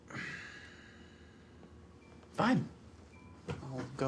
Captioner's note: Abe sighs